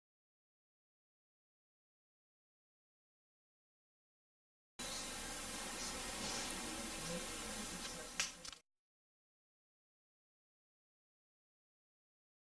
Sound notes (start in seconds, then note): 0.2 silence; 4.6 camera noises; 9.1 silence